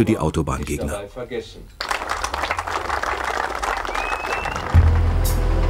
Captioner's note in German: Applaus